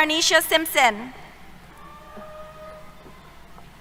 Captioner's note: cheers